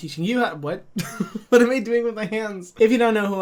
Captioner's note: laughs